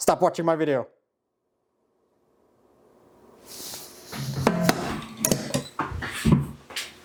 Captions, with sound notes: Stop watching my video. (metallic clanging)